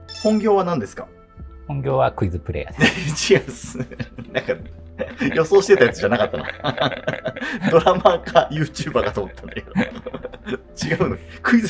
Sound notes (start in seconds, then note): 2.8 laughing; 6.9 laughing